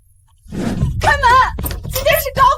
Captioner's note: door opens